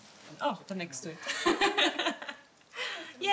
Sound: laughs

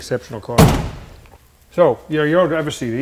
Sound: door thudding

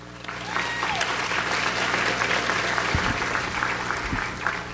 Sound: audience applauds

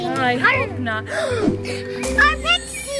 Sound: gasps

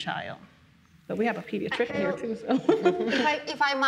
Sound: laughs

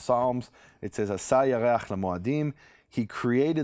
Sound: speaks in a foreign language

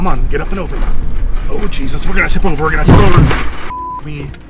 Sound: thud

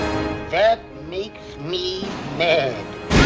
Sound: cartoonish voice

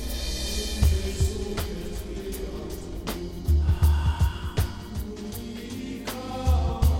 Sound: sniffs and Exhales

